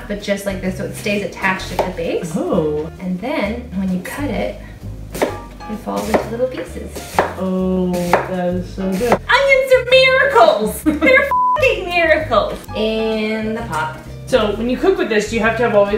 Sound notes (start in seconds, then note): 10.8 laughs